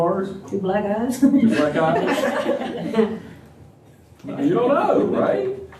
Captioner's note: laughter